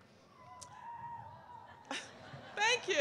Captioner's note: sporadic cheers